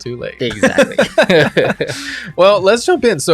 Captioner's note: both laughing